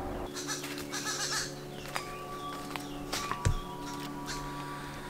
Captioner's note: monkey noises in the background